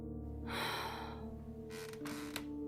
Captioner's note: sigh